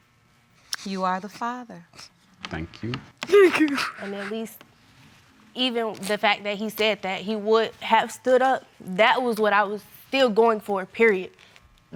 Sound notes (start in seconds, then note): 3.3 sobbing